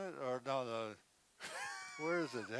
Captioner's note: laughing